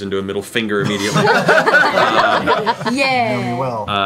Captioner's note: laughter